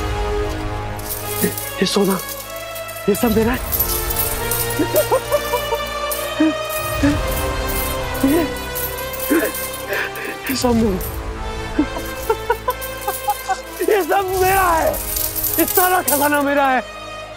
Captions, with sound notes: [coins clinking] This gold... All this is mine. [laughing] This is mine. [laughing] All this is mine. This treasure is mine.